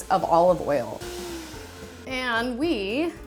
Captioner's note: blender whirring